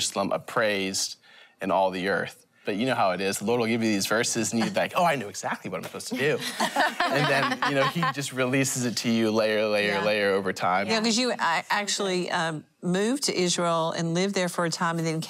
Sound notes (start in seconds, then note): 7.8 laughter